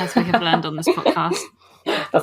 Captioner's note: laughing; laughs